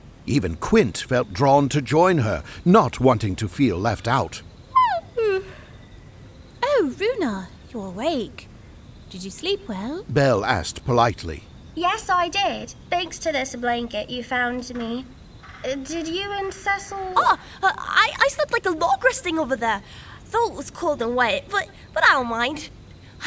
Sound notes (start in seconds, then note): 4.8 yawn